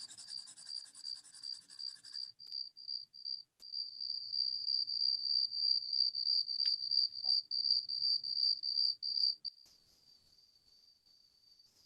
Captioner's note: soundscape: pencil on paper, cricket sounds